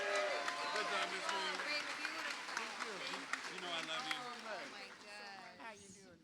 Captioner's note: cheers and applause